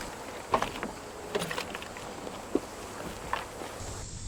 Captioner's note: keys clink; truck door opens